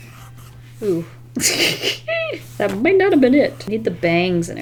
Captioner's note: laughs